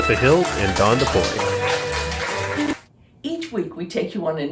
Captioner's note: audience applauding